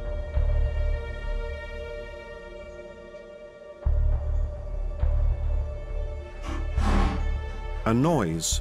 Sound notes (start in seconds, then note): 6.3 metallic rattling